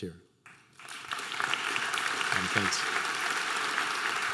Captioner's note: audience applause